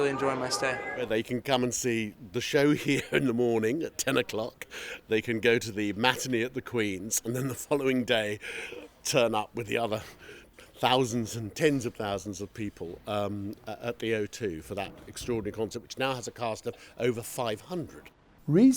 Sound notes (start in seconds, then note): 2.8 laughter